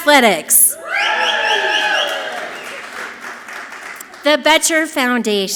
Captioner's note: audience clapping and cheering loudly